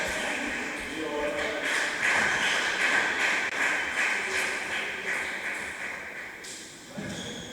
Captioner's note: applause